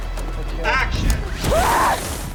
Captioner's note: rue bennett yelps